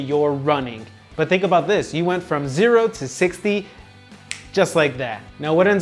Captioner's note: thumb snap